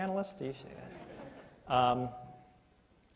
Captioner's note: laughter